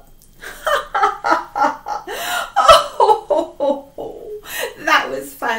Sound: chuckling

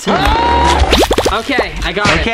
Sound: yelling

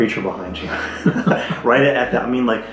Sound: both laugh

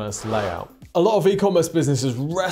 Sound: screen wipe whooshes

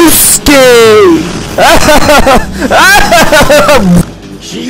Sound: sounds of pure pain hidden by laughter

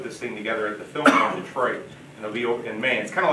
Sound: drowned by coughing audience member

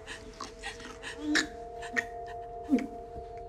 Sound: gasping

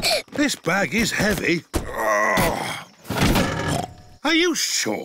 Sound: peppa giggles; grunts; snorts

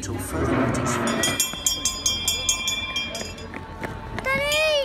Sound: bell rings

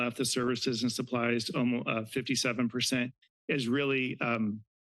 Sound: none

